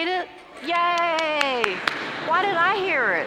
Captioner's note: applause